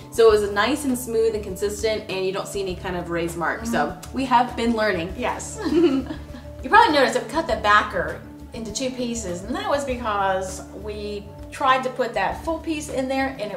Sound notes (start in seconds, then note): 5.6 laughs